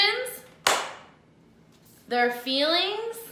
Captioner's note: clap